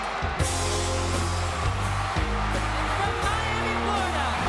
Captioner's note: audience cheering